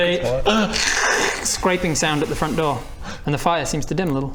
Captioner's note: krrrrksshk